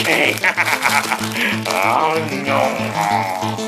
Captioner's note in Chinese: 咀嚼聲